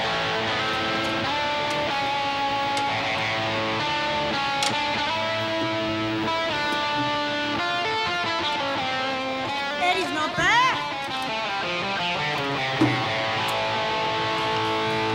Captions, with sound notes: (Yells) Eddie's not bad.